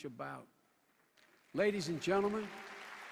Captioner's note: applause